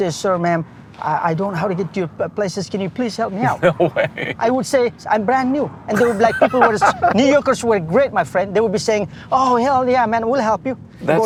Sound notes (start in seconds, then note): 3.4 laughs; 5.9 laughs